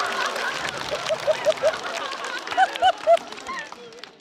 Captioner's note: audience laughter